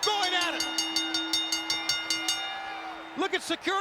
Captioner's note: bell rings